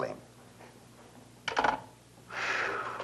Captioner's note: phone clicks into receiver; Chasen exhales